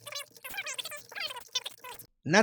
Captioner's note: sped up audio